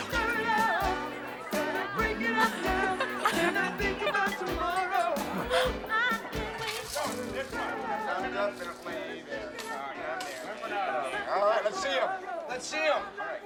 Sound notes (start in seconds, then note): 1.3 giggling; 6.0 men Talking